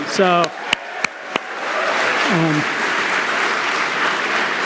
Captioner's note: applause